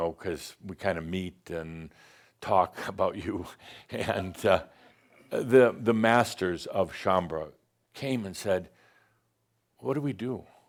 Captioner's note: a couple of chuckles